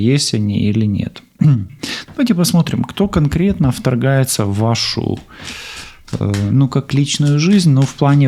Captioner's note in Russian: откашливается